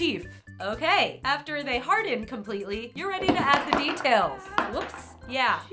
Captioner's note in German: Kerzen fallen und schreit